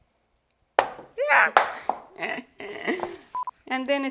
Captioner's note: avocado seed thuds; laughs